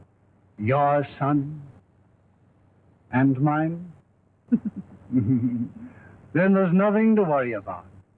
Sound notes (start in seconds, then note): 4.5 laugh